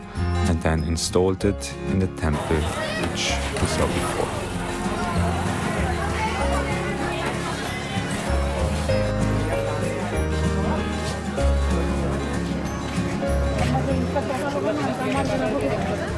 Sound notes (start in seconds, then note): 4.9 upbeat music; 13.6 people chattering